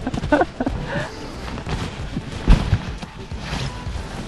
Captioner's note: laughs